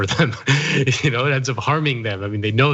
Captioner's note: laugh